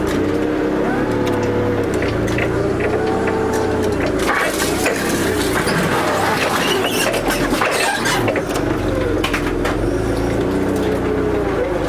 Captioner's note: sound of a forklift engine